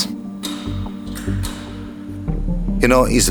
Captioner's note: machine clacks